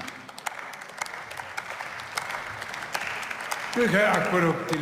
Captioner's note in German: Beifall